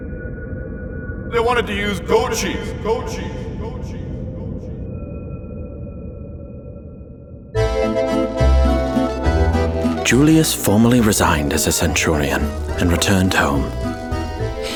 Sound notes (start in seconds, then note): 1.5 Julius Voiceover; 7.5 italian music